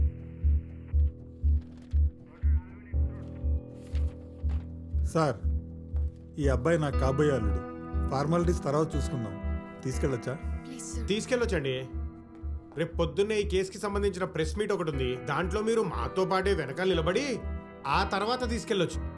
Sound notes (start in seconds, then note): none